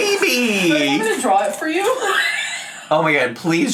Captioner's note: laughs; laughs